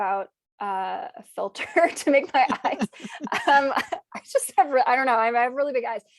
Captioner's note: chuckles